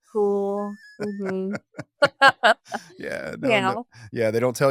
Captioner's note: both laughing